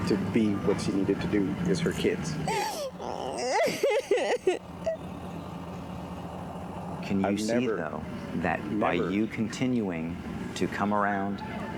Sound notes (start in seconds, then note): 2.4 crying